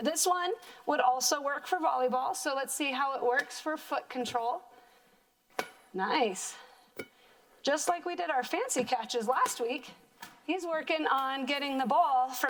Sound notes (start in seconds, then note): 5.5 ball bouncing